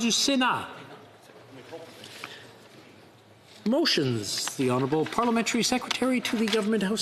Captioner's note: speaking French